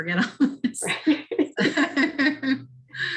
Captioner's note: laughter